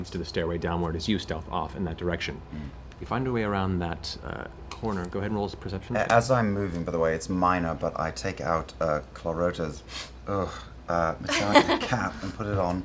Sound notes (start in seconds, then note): 10.1 sniffs, groans